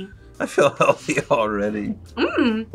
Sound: laughs

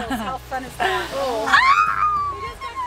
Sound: screams

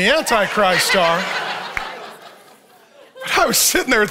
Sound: audience laughs

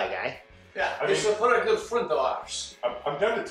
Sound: in Russian accent

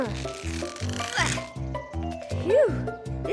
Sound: effort grunts

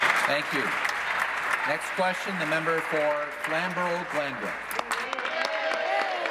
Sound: applause

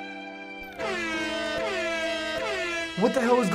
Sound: sad music; repetitive blaring

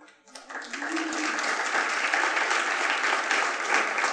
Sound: attendees applauding

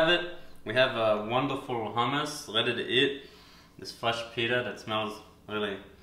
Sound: sniff

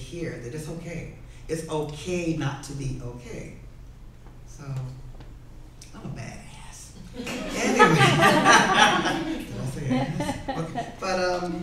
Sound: laughs

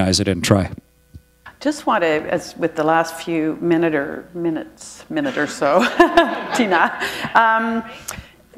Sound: chuckle

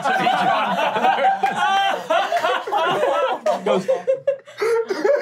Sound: players laughing

